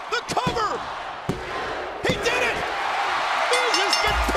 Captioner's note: crowd cheering